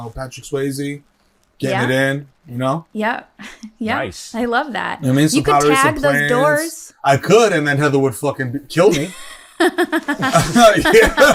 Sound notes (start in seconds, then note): 8.8 chuckles